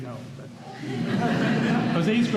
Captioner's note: laughter